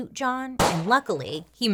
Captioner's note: gun firing